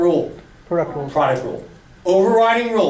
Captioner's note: voiceover